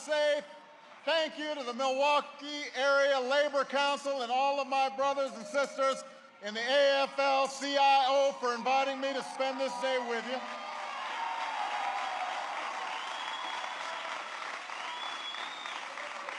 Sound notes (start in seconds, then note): 8.2 applause